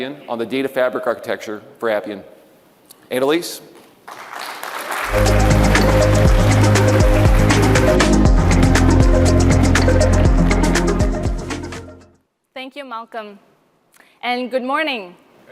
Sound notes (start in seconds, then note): 4.0 audience applauding; 6.9 upbeat music